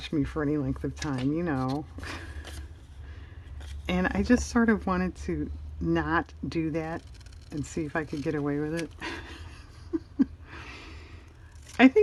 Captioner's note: laughs